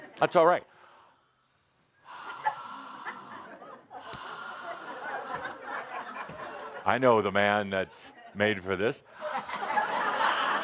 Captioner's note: laughter as he starts breathing towards people